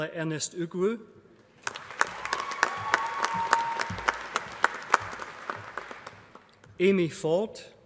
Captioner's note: applause